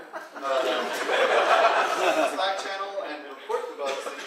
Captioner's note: audience laughing